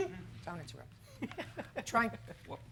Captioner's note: laughing